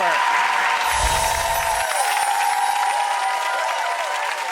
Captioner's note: audience cheering